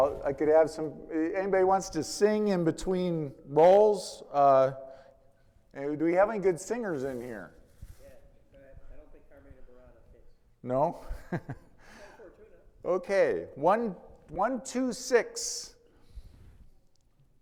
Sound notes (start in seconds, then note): 9.7 faintly speaking; 10.9 chuckles